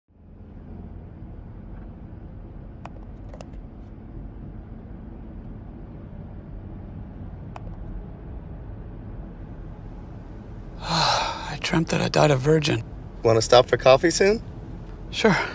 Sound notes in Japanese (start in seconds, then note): 10.7 ため息をついて; 15.2 ため息をついて